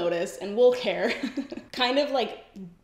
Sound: giggles

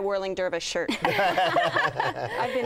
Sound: laughter

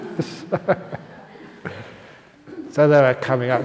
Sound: laughter

